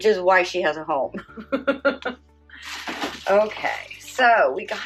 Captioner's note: laughs